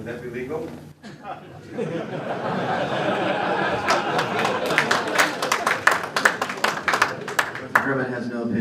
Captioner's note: laughter